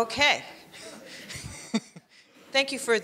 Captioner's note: laughing